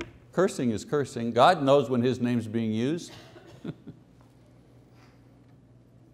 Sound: chuckling

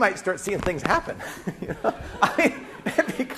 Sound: class laughing

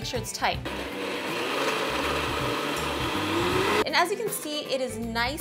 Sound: blender whirring

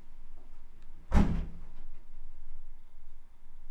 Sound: front door slams

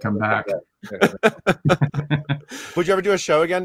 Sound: laughs

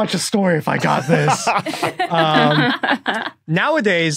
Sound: others laughing

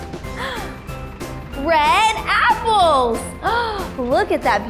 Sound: gasp

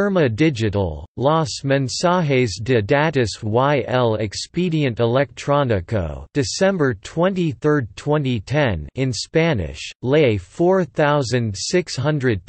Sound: in Spanish

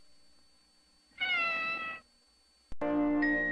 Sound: Mimsie mewing

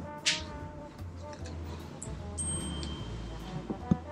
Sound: ding

